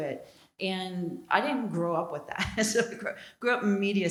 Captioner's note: laugh